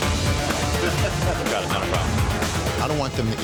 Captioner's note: customer laughing